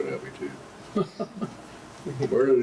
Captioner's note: laughs